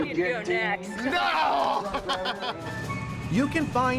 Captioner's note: laughs